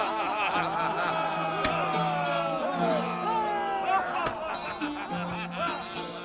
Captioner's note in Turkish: Bağrışmalar